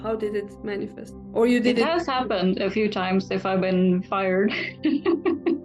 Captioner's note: laughs